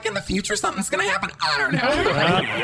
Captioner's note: audience laughter